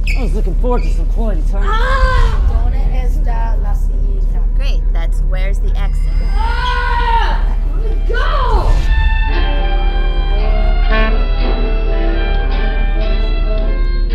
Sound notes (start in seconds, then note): 1.7 black haired boy yelling; 2.9 students speaking in Spanish; 6.4 black haired boy yelling in pain